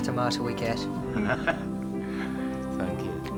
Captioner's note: laughing